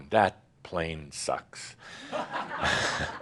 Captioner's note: laughter